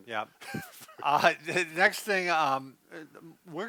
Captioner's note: chuckles